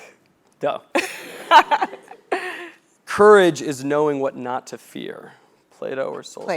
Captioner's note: laugh